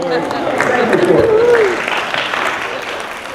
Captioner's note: applause and laughter